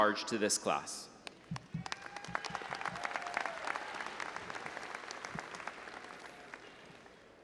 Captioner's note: all applauding and audience cheering